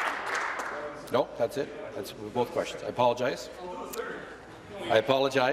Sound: applause

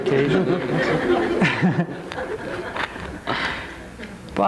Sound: crowd laughs

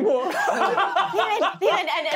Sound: laughing

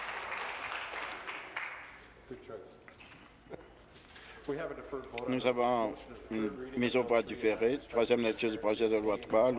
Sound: applause

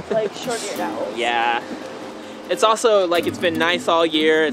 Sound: laughs

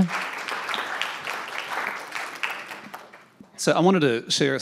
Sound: audience applauding

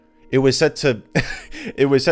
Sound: laughs

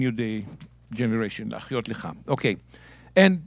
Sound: speaking in Hebrew

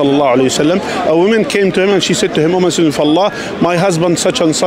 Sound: Arabic

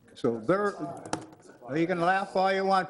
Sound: laughing

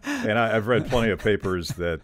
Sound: laughing

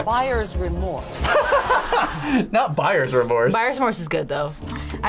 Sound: both laugh

